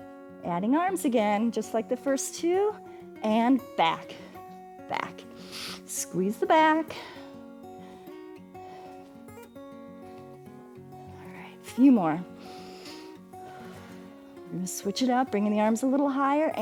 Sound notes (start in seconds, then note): 12.3 inhales and exhales